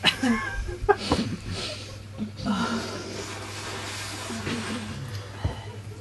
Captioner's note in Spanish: risas cesan